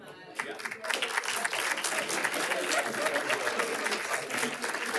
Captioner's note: attendees clapping